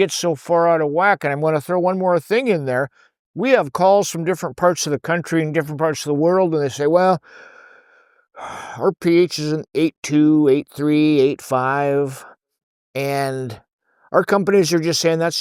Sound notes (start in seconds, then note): 7.2 deep breath